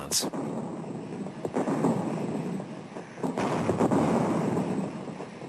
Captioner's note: heavy artillery booming